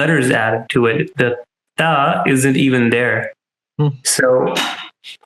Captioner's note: speaking in Arabic